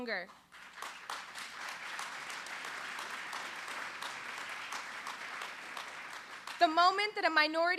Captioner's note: applause